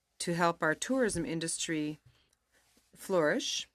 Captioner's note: speaking in french